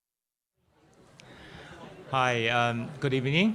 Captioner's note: audience chattering